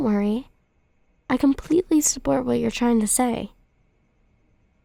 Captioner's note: none